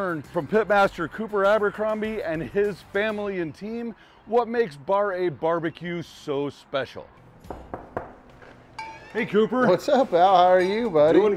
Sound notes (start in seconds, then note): 7.4 knocks